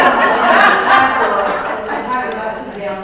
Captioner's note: laugh